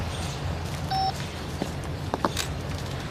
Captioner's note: phone beeps